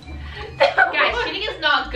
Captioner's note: laughing